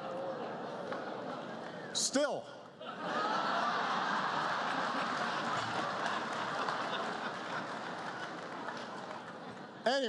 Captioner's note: laughter